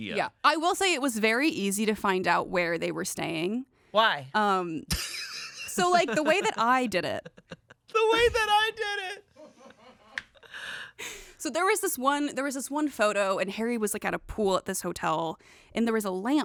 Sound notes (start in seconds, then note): 7.0 laugh; 10.6 laughs